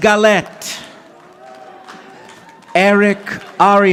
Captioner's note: audience applauding